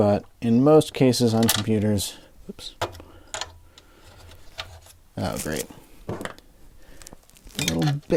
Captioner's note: screw bit clatters into case